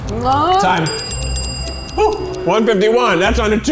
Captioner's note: bell ringing